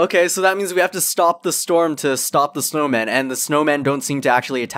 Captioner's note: none